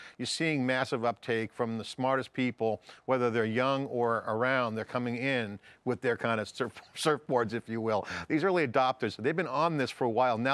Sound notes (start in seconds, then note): 7.3 chuckles